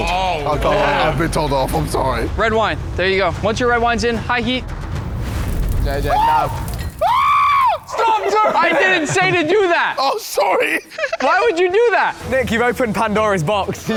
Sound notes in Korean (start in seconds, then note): 6.0 비명; 10.6 웃음